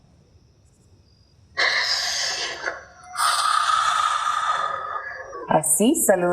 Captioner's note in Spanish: Sonido de soplido